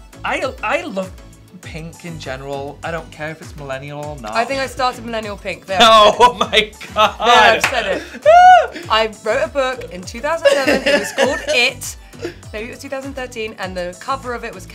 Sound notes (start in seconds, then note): 7.9 Tan exclaiming